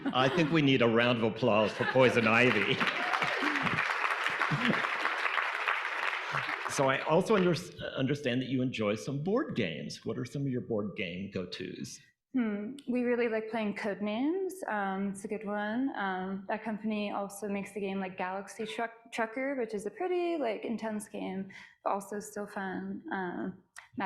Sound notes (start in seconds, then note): 3.2 audience applauding